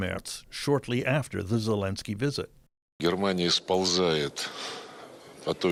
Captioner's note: speaking dutch language